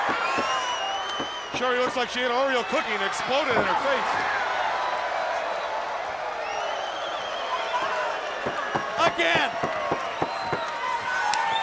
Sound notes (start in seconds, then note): 4.8 crowd cheering; 4.8 crowd whistling